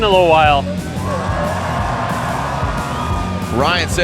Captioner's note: crowd cheers